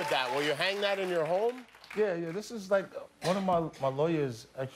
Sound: cheers and applause

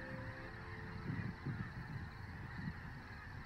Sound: crickets chirping

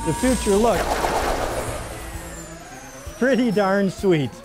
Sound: lasers fire

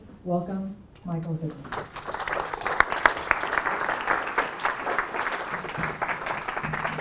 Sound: applause

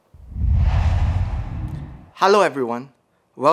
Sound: logo swooshes

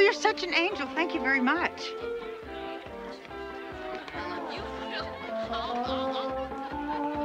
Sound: upbeat music; guests chattering

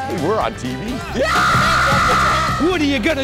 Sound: screaming

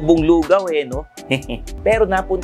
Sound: chuckles

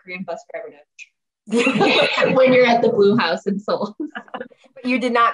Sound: laughs

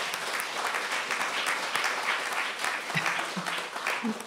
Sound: applause

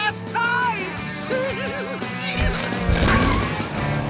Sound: giggling

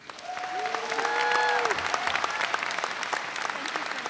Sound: audience cheering

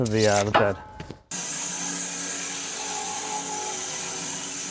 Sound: saw blade humming

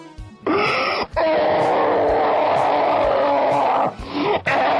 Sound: screams of the damned

